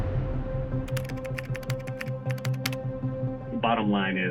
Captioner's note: keyboard clicking; tense music